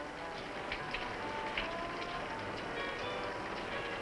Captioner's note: rain falling